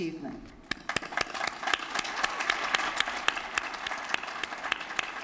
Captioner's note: applause